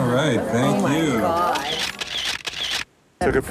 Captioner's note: camera shutter clicks